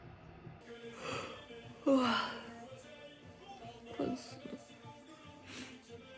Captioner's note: yawning